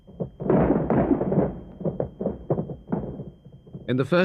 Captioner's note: gun thudding